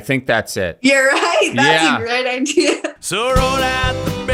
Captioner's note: laughs